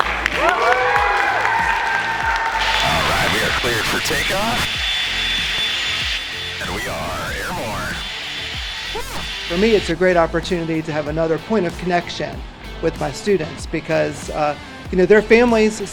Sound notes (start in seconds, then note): 0.0 applause; 5.0 white noise; 8.2 white noise